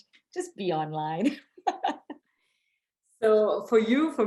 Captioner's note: laughing